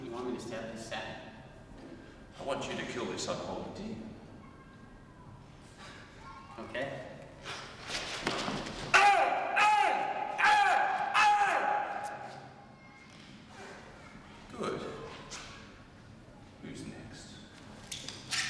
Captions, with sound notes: - I want you to kill this unholy demon. - Okay. (screaming) - Good. Who's next? - Sebastian!